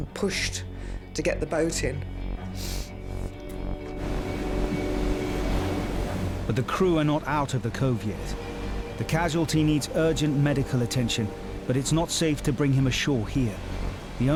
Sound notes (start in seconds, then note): 2.9 ominous music; 2.9 waves crashing